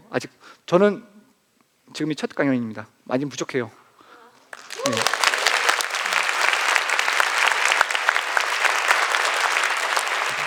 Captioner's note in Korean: 박수